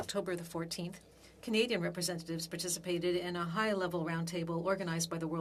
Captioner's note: speaking French